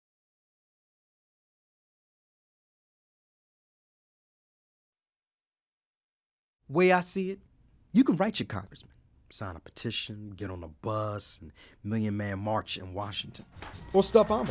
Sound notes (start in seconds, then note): 7.1 voiceover